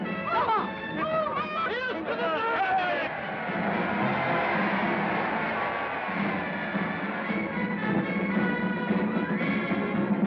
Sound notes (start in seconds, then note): 0.3 woman Exclaims; 2.0 cheering; 8.3 band Continues